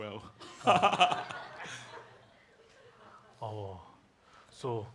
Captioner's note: laughs